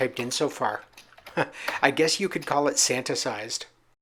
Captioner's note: laughs